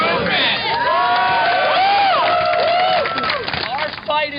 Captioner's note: cheering and applause